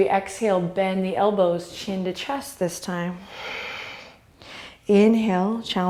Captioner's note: exhale